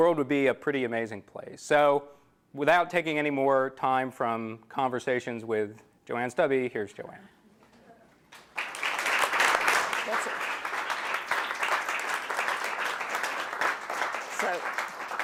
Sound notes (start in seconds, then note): 8.3 applause